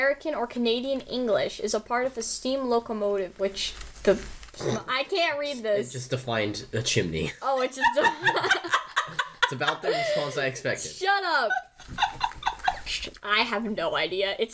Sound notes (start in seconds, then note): 7.4 laughter